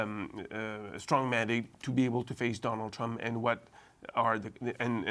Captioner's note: speaking french